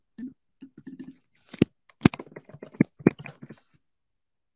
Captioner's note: mouse clicking